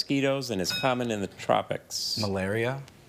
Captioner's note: bell dings